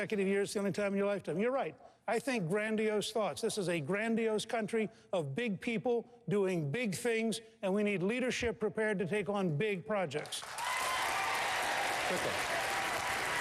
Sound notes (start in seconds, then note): 10.2 applause